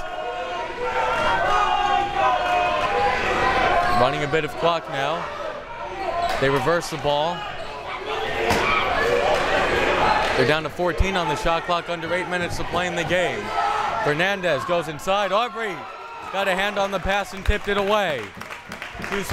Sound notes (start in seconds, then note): 0.0 crowd members shouting; 7.9 crowd members shouting